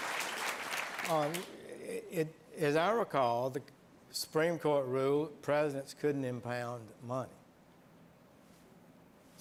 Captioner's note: applause